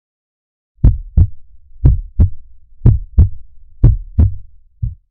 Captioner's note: heartbeat thumping